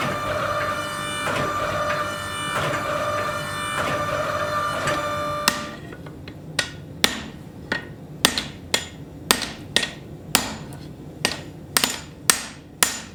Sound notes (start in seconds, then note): 5.4 hammer banging